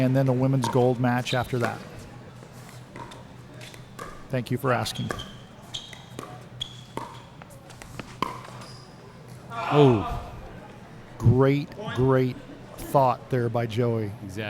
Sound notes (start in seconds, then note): 6.1 shoes squeaking; 6.7 ball being hit